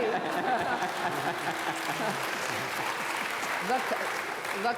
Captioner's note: applause